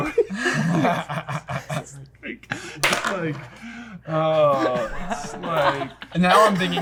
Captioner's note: laughter